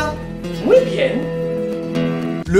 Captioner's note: Spanish